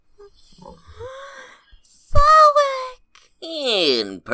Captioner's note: happy gasp